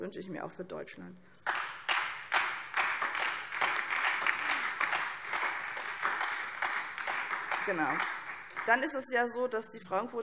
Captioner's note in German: Beifall SPD und DIE LINKE